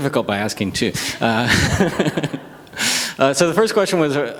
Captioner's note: audience chuckles